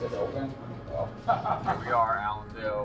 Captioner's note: laughs